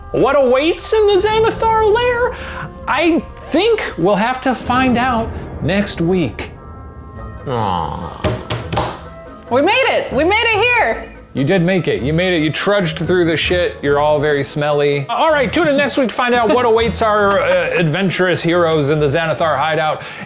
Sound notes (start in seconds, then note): 8.2 hitting table